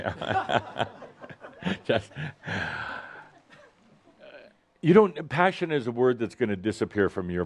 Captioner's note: Adamus chuckles